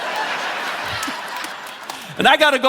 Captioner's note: audience laughing; chuckles